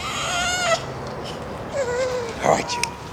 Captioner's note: baby fussing